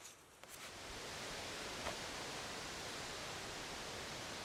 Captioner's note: wind rustling